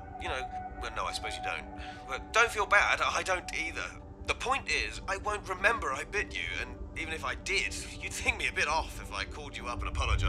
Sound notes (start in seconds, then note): none